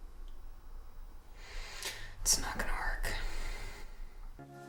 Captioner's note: sighs